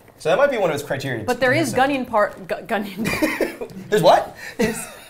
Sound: laughing

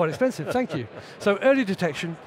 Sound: laughs

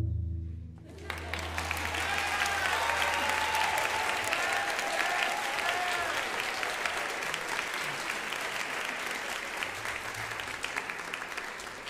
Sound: audience applause

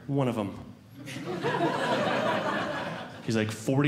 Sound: audience Laughing

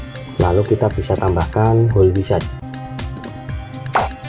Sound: click

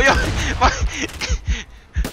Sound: gasp

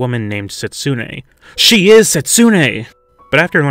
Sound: gasp

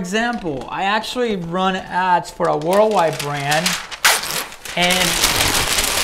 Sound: paper crumpling

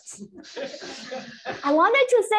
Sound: laughter

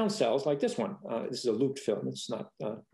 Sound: speaking faintly

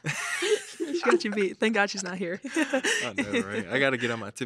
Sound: laughs

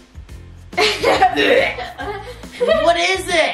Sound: gags

